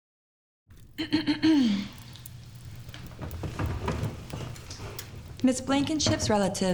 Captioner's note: Ms. Hemlock clears throat